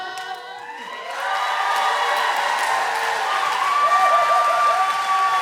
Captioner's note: audience cheering